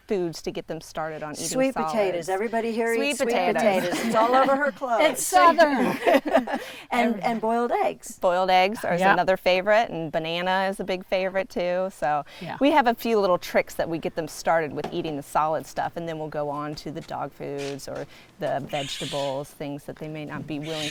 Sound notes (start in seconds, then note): 3.1 laughs; 5.6 both laughing